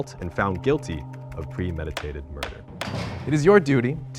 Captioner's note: gavel tapping